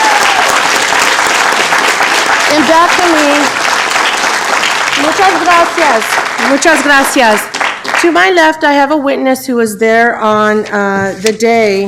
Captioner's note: applause